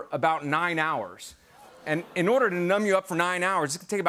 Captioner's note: audience groans